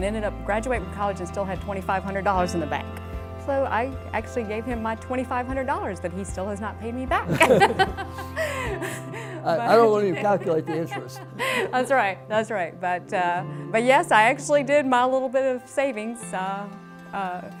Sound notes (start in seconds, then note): 7.2 laughing